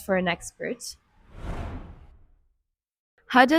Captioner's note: transtition sound